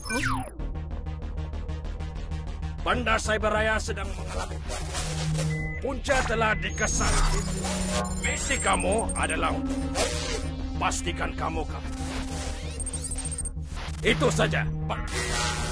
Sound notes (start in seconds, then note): 4.7 bzzz; 4.7 bzzzz; 9.4 bzzzzz; 11.5 bzzzzz; 15.0 bzzzz